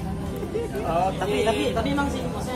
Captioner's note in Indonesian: laugh